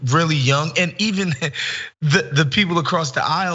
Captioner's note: laugh